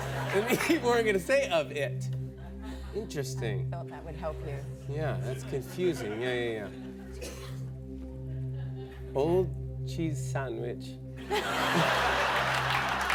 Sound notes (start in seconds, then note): 8.9 Australian accent; 11.2 laughter